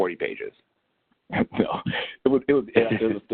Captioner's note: laughter